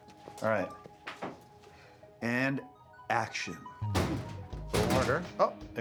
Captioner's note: cabinet rattling